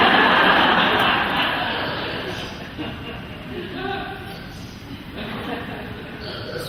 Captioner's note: laughing